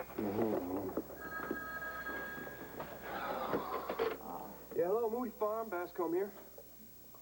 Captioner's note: telephone rings